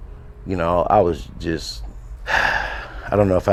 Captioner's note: breathe deep